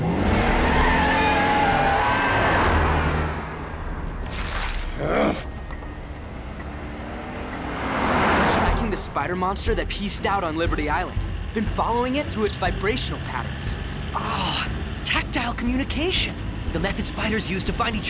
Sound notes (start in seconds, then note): 0.0 engine revving; 4.9 growling